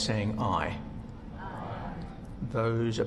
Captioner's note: multiple "ayes."